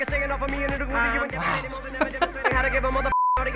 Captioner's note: laughs